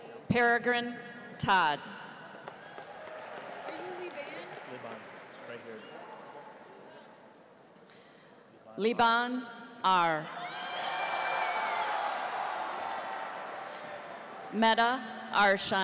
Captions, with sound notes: Paragrin Todd. Leban Ar. (audience applauds) (cheers) Mette Aarsheim.